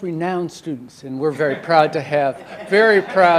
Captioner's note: audience laughing